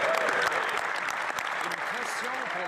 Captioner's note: some Applause